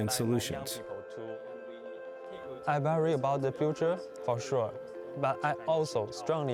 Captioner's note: speaking Chinese